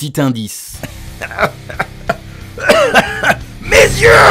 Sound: cough cough

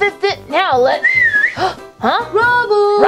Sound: whistle blowing; sighing

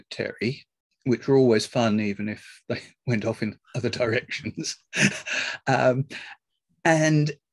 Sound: laughs

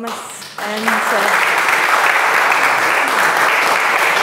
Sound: audience applauding

